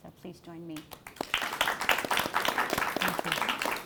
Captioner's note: applause